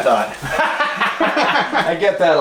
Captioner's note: laughs